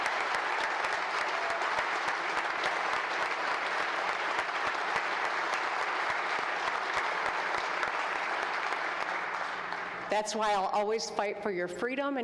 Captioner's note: applause